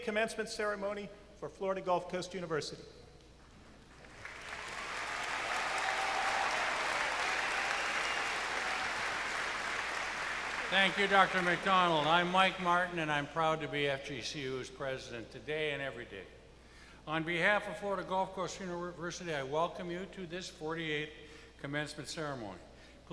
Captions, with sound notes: Now, it is my honor to call to order these exercises, for the 2019 Spring Semester, the 48th Commencement Ceremony for Florida Gulf Coast University. [Cheers and applause] PRESIDENT Thank you, doctor.